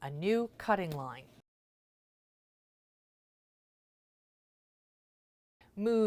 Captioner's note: no Sound Present